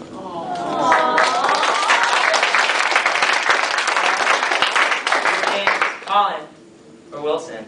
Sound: awws.., applause

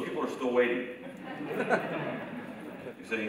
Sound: student laughs

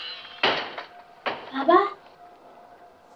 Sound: dramatic music; door banging

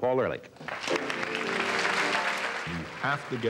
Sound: whistling and applause

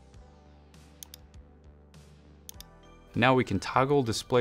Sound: mouse clicking

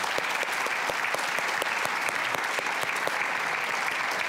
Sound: audience clapping

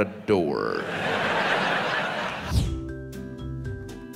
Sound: audience laughs; pleasant music

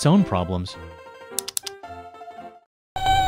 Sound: click, click

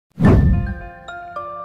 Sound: whoosh Sound

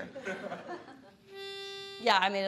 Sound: laughing; blows pitch note

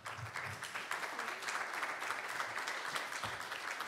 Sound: audience clapping

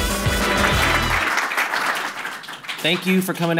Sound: clapping

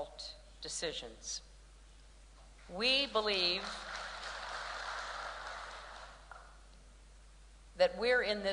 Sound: applause

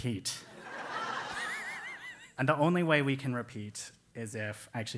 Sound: laugh

